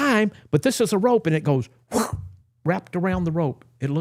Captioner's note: whooshing